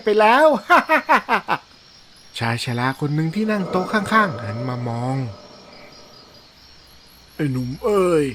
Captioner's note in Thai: เสียงหัวเราะ